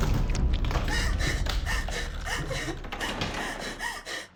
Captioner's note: ominous music; Rose whimpering